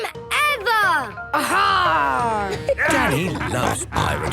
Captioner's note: laughter